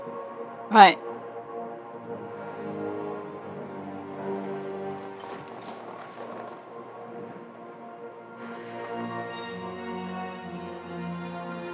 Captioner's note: laughs